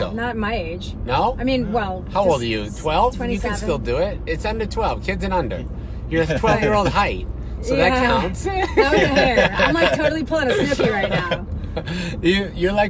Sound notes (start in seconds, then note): 8.5 laughs; 8.6 laughing drowns out speaker